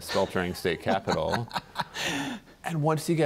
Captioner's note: laughter